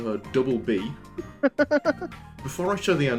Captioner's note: laughter